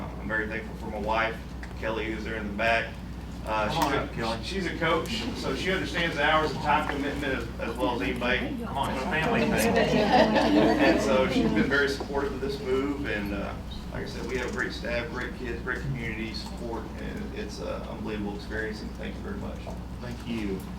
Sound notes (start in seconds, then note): 9.6 laughter